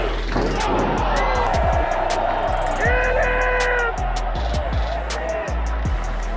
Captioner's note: crowd cheering